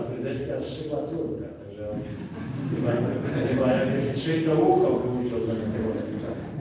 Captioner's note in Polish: śmiech z sali